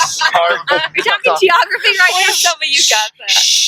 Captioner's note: laughs